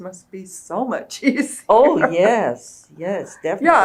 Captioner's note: laughs